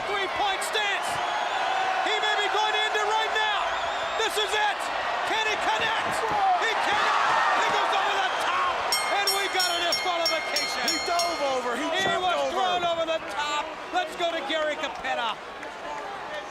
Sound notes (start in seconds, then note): 10.9 bell ringing